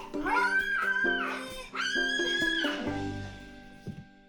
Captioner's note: screams